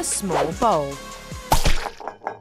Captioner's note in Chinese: 噗滋